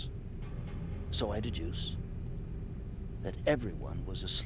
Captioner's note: none